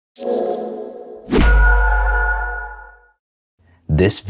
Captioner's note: logo whooshing and pinging